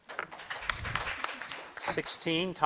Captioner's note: crowd claps